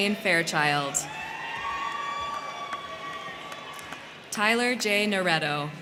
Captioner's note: crowd cheering; crowd clapping